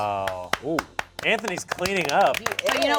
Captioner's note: cast claps